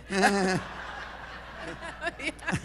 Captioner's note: laughter